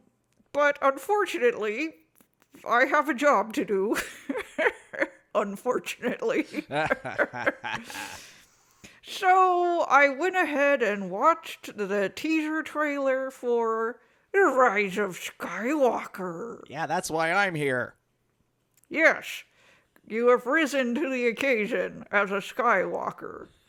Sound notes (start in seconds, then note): 6.1 cackles